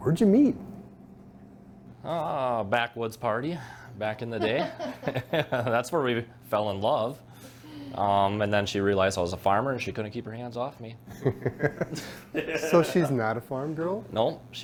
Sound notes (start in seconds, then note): 4.4 laugh; 11.2 laughs